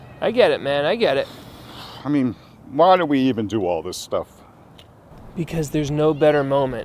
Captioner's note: exhales